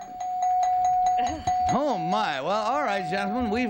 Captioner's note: bell ringing